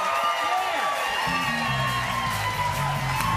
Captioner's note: cheers and applause